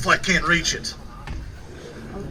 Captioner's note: laughing